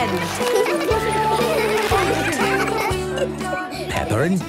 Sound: laughter; giggling

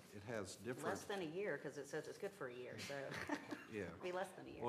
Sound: laughter

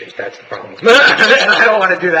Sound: commission laughing

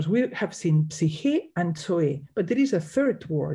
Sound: speaks in Greek

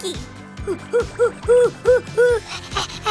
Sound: screeching

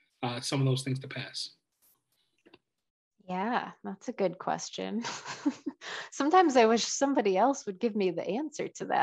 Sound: chuckle

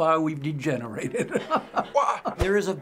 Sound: chuckles

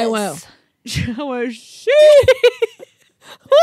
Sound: mutters; group laughs

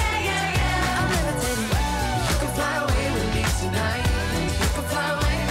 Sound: woo

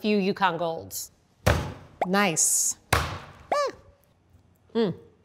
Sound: hammer smashing

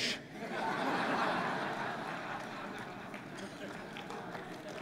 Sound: laughter

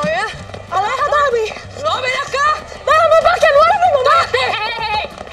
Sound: Esti and Lupe speak in Spanish

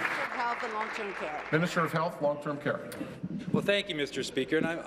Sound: applause

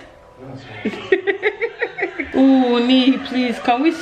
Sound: laughter

